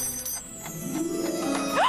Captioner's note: bell ringing